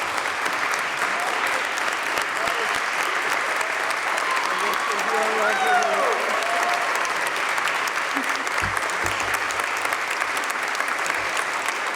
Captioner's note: applause